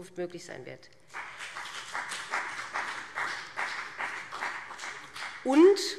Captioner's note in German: Beifall BÜNDNIS 90/DIE GRÜNEN und CDU